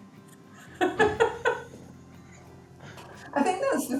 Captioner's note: laughter